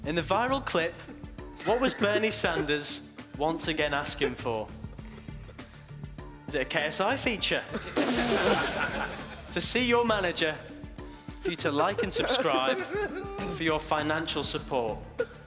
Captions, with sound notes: in the viral clip, what was Bernie Sanders once again asking for? Was it a KSI feature? (blowing raspberries) To see you manager? For you to like and subscribe? For your financial support.